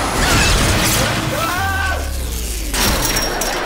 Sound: screaming

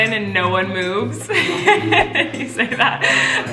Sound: laughing

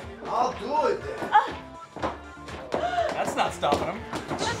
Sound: wench grunts

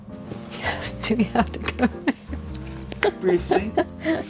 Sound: laughing

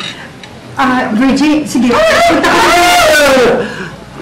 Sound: wailing

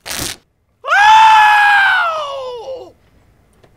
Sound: screams like a banshee

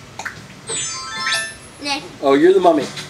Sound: chimes with outfit change

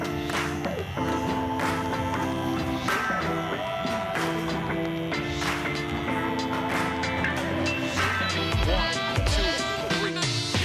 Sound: clippers buzzing

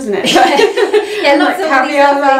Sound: laughter

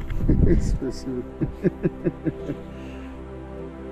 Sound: laughing

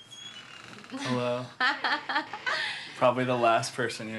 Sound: laughs

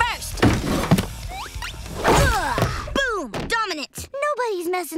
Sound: grunting

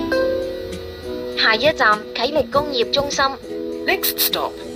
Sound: Cantonese

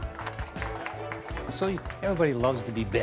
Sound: applause

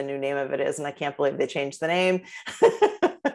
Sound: laughter

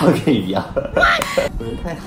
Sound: slap

